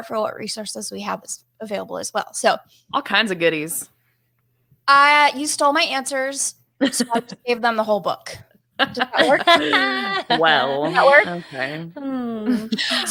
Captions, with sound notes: for what resources we have available as well, so. - All kinds of goodies. - You stole my answers, so I had to give them the whole book. Does that work? (laughing) - Well, okay. - Does that work?